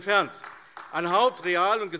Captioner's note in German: Beifall AfD